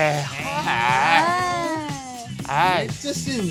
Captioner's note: group booing